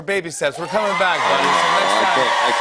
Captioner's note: cheers and applause